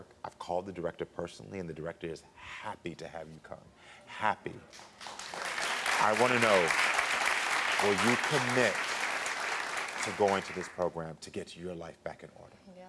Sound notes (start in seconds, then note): 4.9 crowd cheering